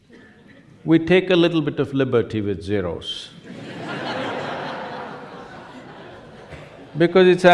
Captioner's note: laughter; 笑聲